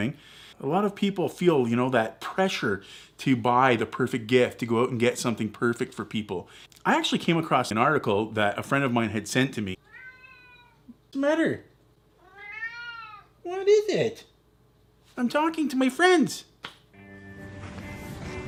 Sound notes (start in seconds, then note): 12.2 cat meowing louder; 12.2 cat meowing